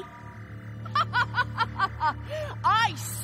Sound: laughing

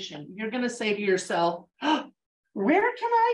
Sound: gasps

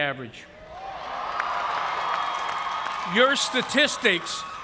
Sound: cheers and applause

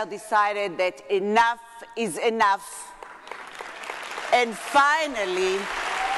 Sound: audience clapping

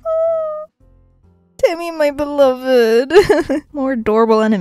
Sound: laughs

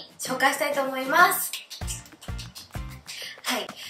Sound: clap

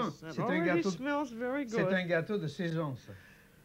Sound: speaking French

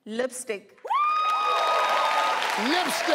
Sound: crowd clapping; woman shouting

